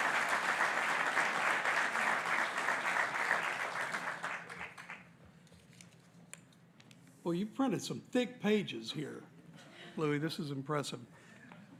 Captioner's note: applause